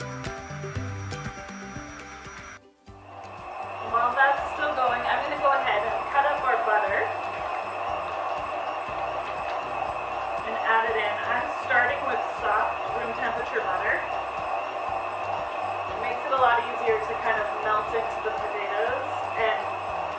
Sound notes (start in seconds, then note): 7.5 whirring sounds